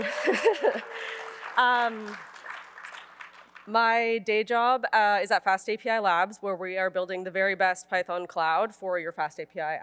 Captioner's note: applause